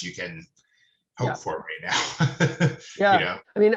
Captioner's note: laughing